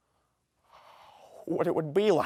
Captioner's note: gasps